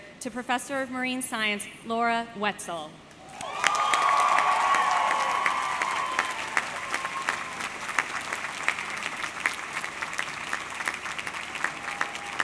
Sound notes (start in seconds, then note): 3.9 audience cheering; 5.0 audience clapping